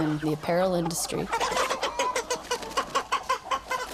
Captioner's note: chickens clucking